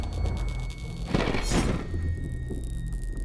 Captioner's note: thunder